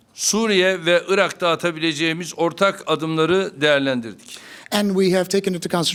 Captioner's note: speaking Turkish